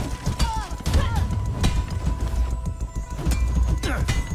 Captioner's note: character grunting